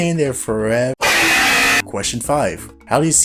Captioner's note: loud incorrect buzzer